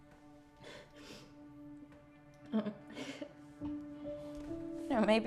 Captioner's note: Jesse whimpers softly